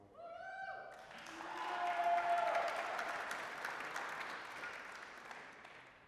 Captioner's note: applause, cheering